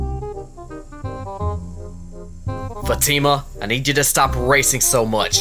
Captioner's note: car pulls up to another car